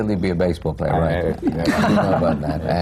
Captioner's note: laughter